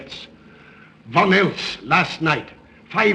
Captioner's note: none